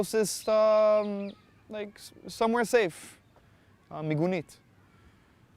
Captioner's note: hebrew